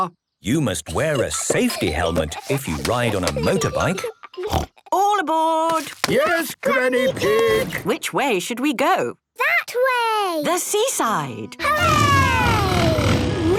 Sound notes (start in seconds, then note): 4.4 snort